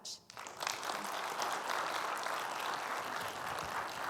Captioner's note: audience applauds